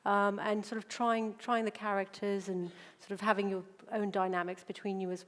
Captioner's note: none